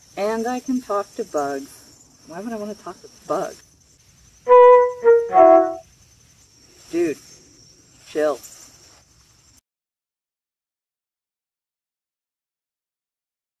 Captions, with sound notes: And I can talk to bugs Why would I wanna talk to bugs? (angry bug chirps) Dude. Chill.